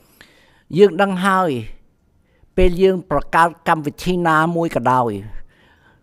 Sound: speaks in Khmer language

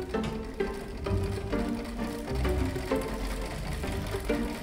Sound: bobbin winding ASMR

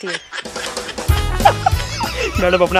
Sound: laughing

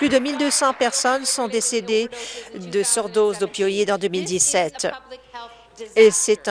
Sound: applause

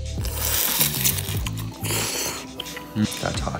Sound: sound of slurping noodles

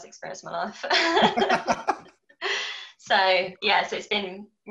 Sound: laughing

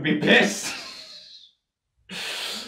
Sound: laughs

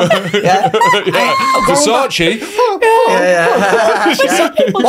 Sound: whimpers

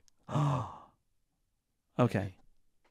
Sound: gasps

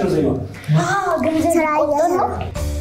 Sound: kids voice

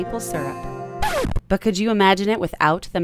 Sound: record scratching

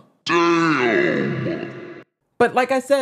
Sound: slowed down deep voice

